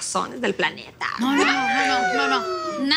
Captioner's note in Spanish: Exclamaciones